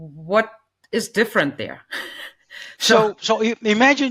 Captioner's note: laughs